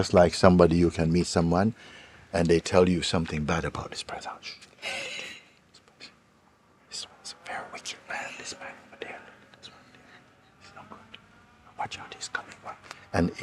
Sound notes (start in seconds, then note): 5.7 whispers